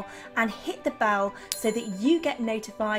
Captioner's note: bell dings